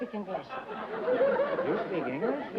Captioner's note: laughter